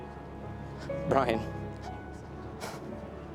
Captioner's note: voice breaks